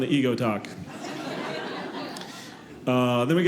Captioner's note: audience laughing